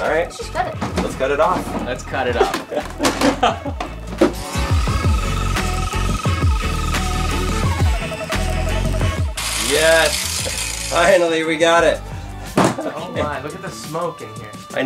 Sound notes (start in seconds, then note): 2.3 laughs; 4.3 power saw whirring